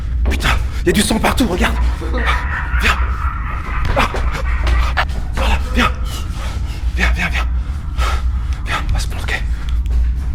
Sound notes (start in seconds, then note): 2.1 scary Laughter